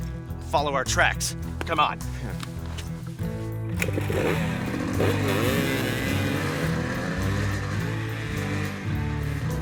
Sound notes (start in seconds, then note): 2.6 bright music; 3.7 bikes whirring